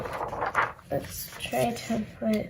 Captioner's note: papers rustling